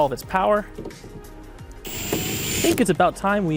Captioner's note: power drill whirs